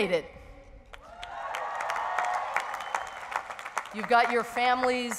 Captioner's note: cheering